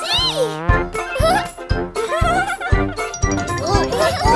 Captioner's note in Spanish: Risas